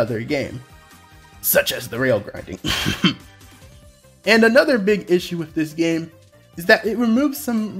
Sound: cough

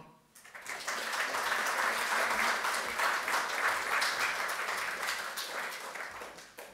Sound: applause

